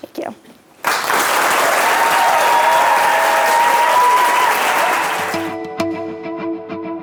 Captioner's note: applause